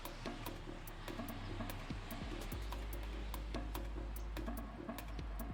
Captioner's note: vehicle engines whirring